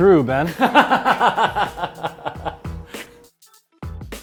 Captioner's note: laughs